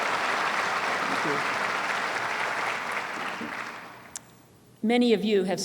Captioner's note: applause